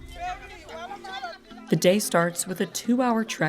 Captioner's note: speaking in foreign language